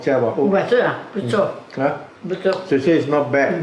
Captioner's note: in Mandarin